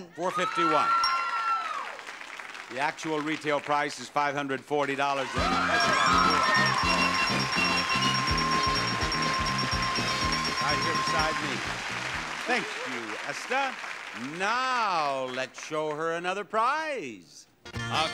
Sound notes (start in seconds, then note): 6.0 cheering; 8.1 dinging